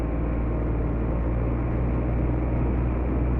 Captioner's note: engine hums